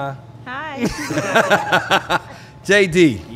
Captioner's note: laughing